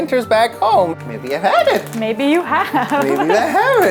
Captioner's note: chuckles